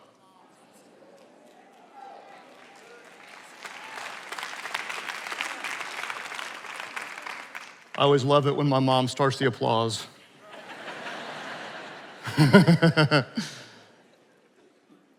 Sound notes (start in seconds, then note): 3.0 attendees applauding; 10.4 attendees laughing; 12.2 laughing